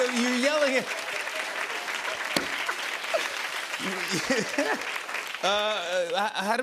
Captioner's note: laughter and applause